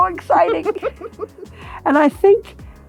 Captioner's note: laughing